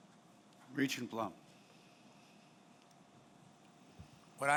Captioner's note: voiceover